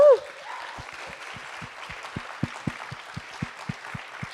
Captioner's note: audience applauds